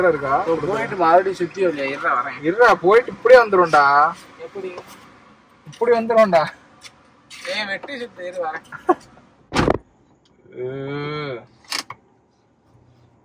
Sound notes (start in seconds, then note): 8.5 laughs